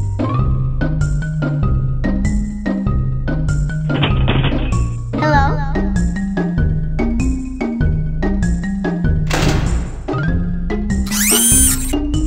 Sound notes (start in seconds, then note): 3.7 banging; 9.3 door Slam